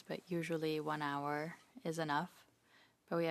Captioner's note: speaking in French